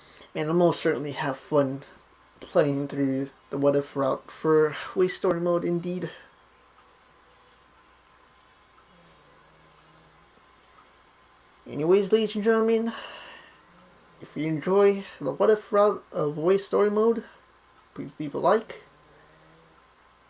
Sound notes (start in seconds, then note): none